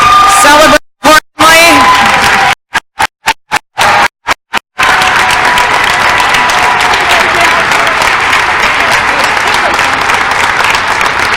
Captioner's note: crowd cheering and applause